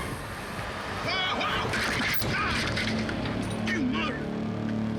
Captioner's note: bicyclist shouts